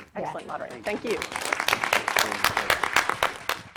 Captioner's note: clapping